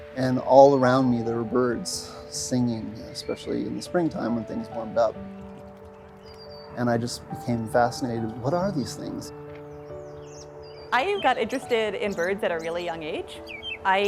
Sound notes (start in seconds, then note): 9.4 robin chirping